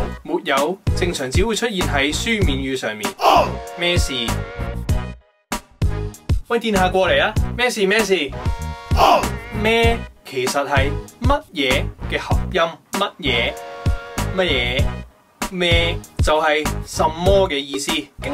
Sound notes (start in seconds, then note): 3.1 Cantonese; 8.9 Cantonese